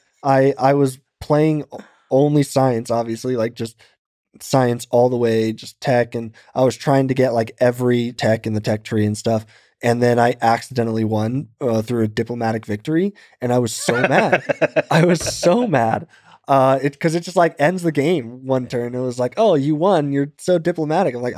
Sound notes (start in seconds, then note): 13.8 Lex laughing